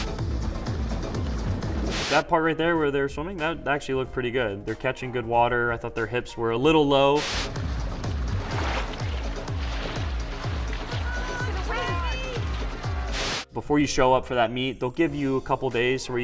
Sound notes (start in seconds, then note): 0.0 upbeat music; 8.7 splashing